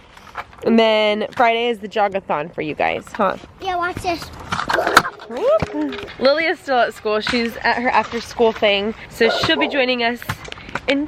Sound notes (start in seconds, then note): 4.7 grunts